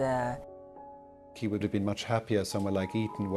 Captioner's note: voiceover